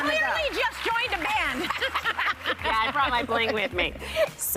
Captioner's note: cheers and applause